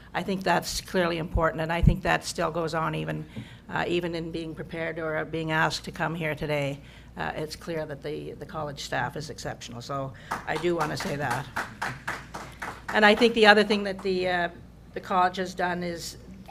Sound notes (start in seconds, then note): 11.9 applause